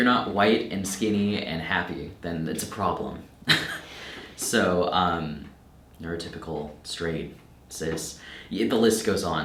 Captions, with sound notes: If you're not white and skinny and happy, then it's a problem. (chuckles) So neurotypical, straight, cis, the list goes on.